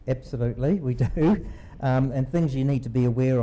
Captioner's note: laughs